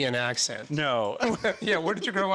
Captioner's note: laughing